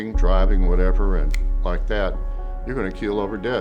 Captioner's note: snaps